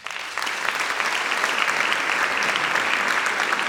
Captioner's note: applause